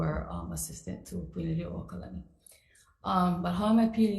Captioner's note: speaks foreign language